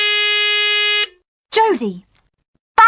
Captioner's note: buzzer